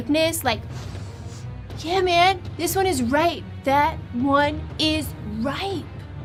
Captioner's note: inhale